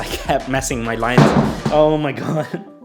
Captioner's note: phone falls